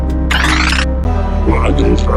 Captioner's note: drone charge up